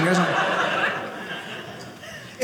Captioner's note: audience laughing